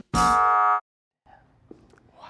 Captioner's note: upbeat music; buzzer buzzes